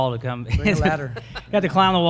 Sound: all laugh

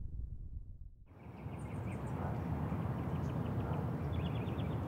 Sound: birds chirping outside

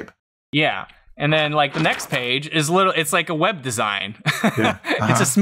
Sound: laughter

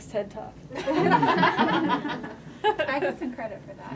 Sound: laughter

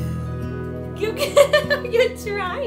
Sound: laughing

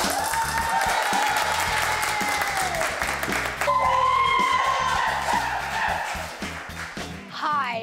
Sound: applause and Cheers

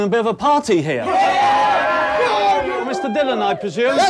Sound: everyone shouts

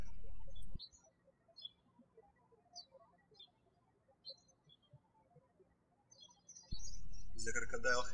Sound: birds chirping

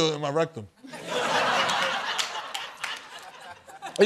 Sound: laughter

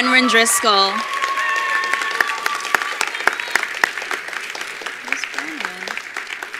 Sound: attendees applauding

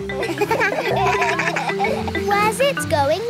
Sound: kids laugh

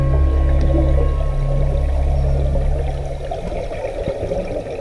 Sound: ethereal music; water bubbling

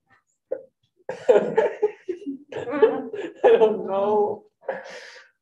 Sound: outbursts of laughter

